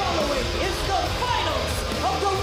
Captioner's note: bell ringing